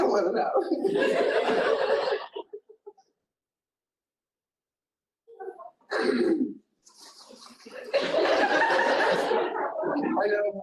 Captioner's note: laughter